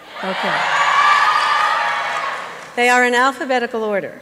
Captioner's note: applause and cheering